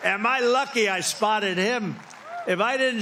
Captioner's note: applause